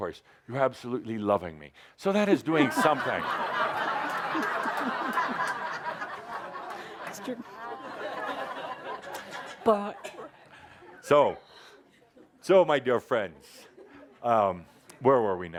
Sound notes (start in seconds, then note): 4.7 lots of laughter